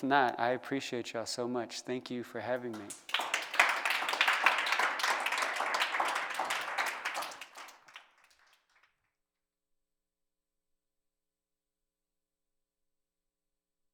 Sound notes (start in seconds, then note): 4.6 applause